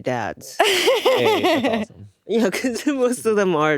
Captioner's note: laughing